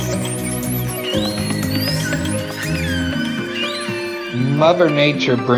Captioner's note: whale sounds and music